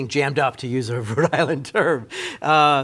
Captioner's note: laughing